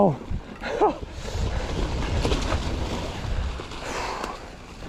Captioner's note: laughs